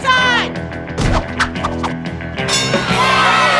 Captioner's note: crowd cheers; scoreboard dings